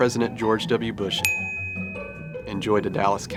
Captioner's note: ding